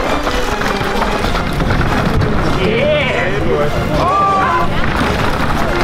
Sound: dramatic music; crowd; dramatic music

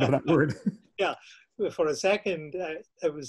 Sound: laughs

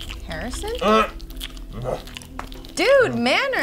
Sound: grunt

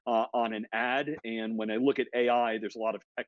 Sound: laughs

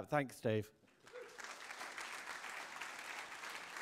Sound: applause

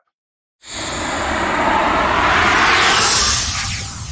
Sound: air whooshing

